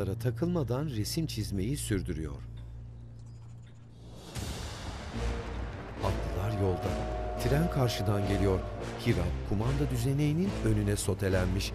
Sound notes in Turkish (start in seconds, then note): 4.4 Müzik - Gerilim; 4.4 Tren sesi